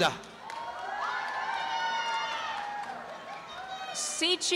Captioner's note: applause and cheering